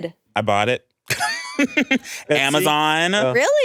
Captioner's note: laughs